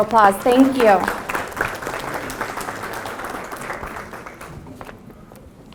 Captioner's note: applause